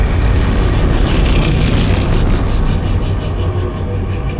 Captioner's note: engine revving; upbeat music